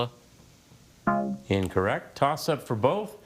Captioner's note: bell blares